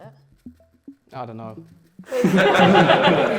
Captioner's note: laughter